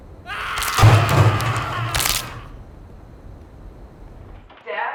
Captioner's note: screams